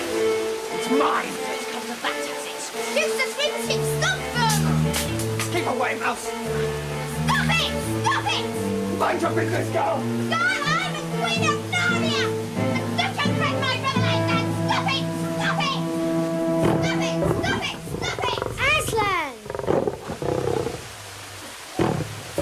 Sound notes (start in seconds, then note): 16.2 roaring